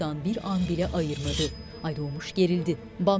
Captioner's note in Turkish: Kılıç çekme sesi